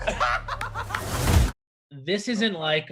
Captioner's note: laughter